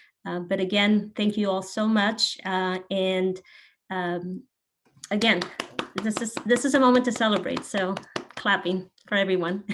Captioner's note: claps